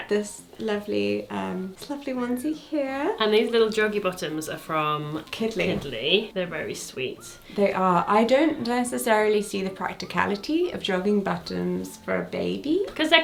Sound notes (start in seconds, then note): none